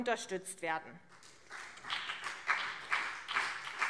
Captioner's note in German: Beifall CDU und BÜNDNIS 90/DIE GRÜNEN